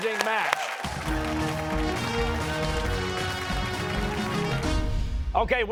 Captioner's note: cheers and applause